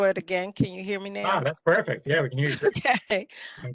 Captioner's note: laughter